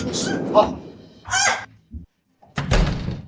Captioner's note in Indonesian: menghela napas